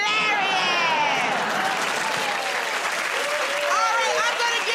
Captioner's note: cheers and applause